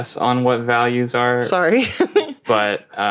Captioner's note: laughing